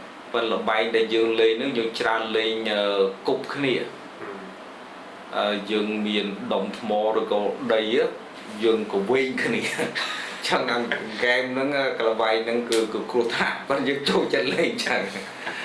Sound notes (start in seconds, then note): 10.7 laughs; 15.2 laughs